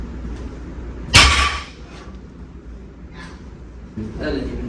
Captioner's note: weight clanks